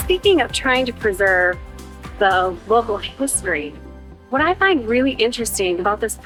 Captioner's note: none